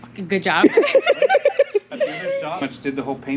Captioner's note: laugh